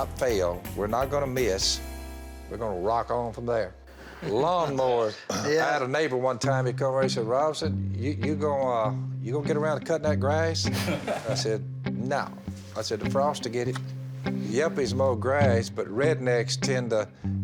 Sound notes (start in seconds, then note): 10.7 laughs